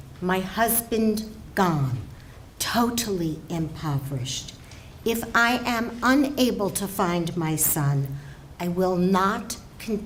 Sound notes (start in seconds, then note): none